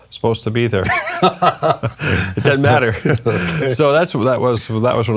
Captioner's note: both laughing